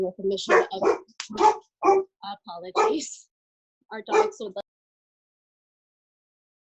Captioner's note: dog barking